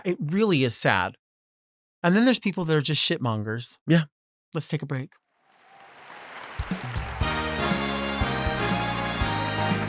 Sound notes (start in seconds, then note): 5.5 audience applauds